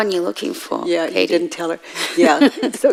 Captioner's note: woman in white laughs